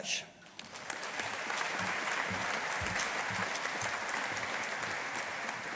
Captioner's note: audience applauding